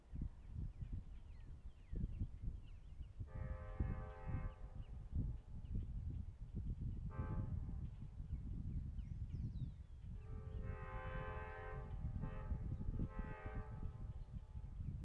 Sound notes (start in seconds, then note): 3.2 train horn; 7.1 train horn; 10.2 train horn